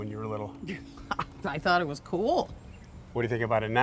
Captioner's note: chuckles